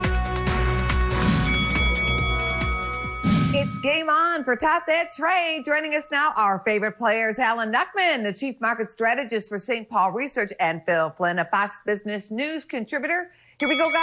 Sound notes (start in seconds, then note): 1.4 bellringing